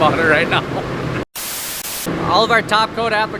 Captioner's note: static sound